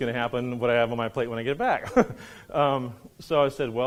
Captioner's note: laughs